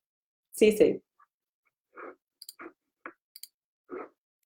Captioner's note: clicking